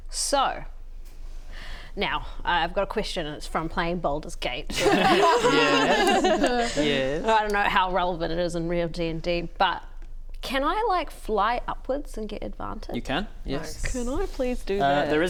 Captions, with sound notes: so now I've got a question and it's from playing Baldur's Gate *sheepish laugh* Yeeeeess? Yes? I don't know how relevant it is in real D&D but can I like fly upwards and get advantage? You can, yes can I please do that?